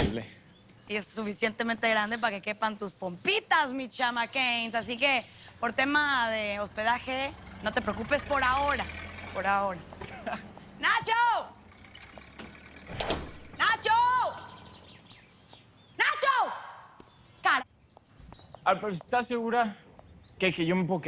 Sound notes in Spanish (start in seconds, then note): 11.9 Sonido al abrir la puerta